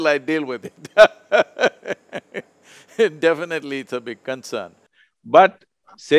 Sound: laughs

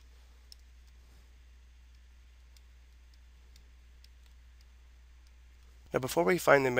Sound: clicking sounds

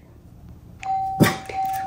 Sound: ding

